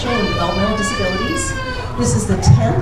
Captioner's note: crying